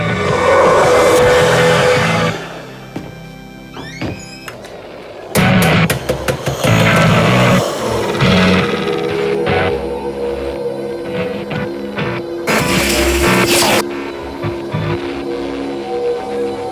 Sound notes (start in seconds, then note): 0.5 haunting sounds, static, and scary noises